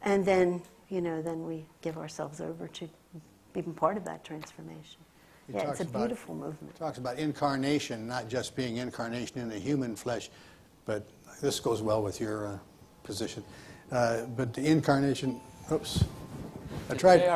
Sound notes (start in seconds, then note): 15.4 phone chimes